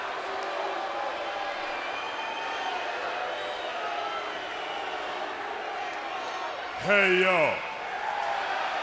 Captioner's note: crowd cheering; crowd chatter